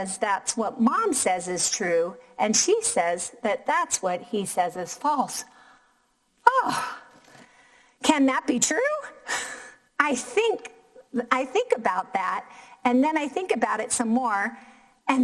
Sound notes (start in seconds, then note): 6.5 sighs